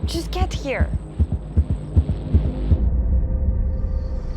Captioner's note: atmospheric background effects